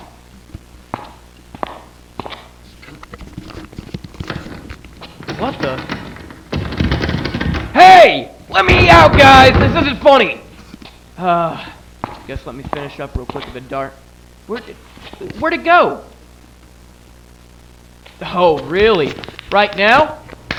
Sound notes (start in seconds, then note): 5.0 doorknob rattling